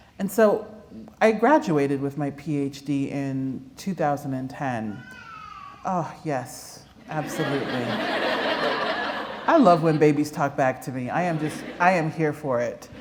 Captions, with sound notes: And so I graduated with my Ph.D. in 2010. [baby cries] Oh, yes, absolutely. [laughter] I love when babies talk back to me. I am just, I am here for it.